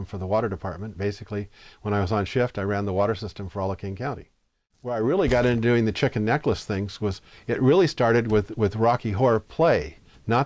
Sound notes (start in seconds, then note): none